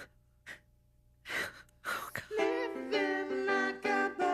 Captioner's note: weeping softly